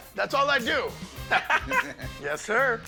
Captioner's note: laughs